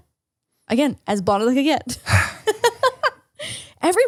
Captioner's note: laughs